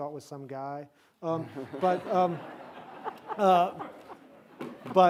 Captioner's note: audience laughs